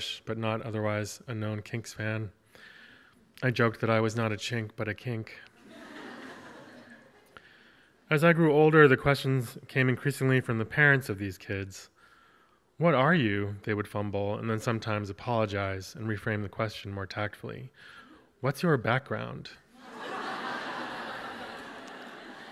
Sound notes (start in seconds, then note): 5.6 audience laughs; 19.8 audience laughs